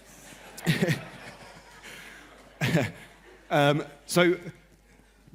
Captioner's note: laughter